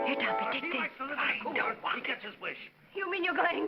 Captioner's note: whispers